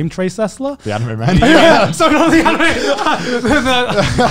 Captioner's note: laughing